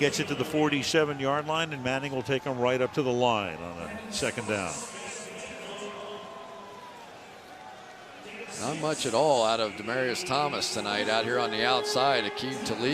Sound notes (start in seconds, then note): 5.4 pa announcement